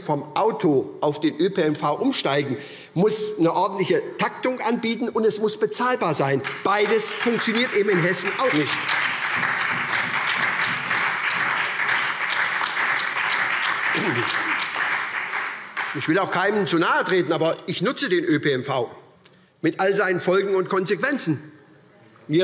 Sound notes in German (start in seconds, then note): 8.7 Beifall SPD, Freie Demokraten und DIE LINKE